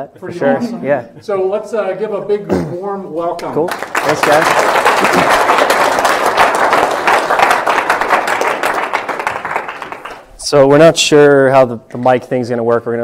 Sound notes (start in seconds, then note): 3.4 applause